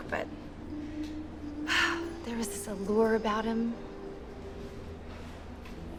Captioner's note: sigh